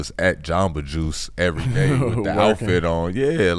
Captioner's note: laughs